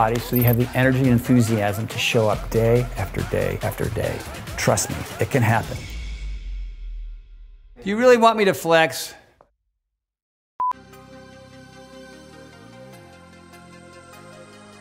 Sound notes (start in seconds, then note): 10.6 beep